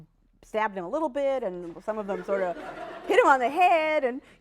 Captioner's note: laughter